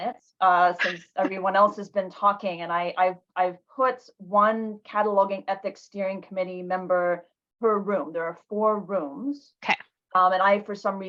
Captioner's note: laughing